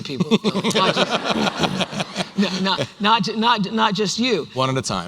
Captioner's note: laughter